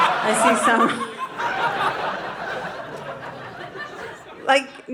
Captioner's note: audience laughing